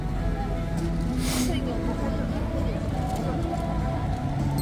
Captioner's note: sniff